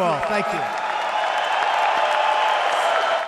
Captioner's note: applause